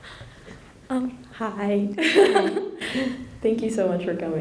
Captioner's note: giggles